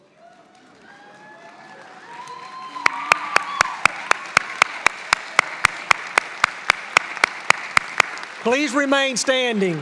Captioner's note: applause